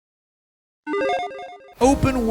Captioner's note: electronic beeping